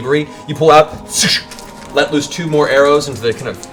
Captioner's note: swoosh, swoosh